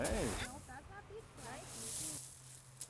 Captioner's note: happy sounds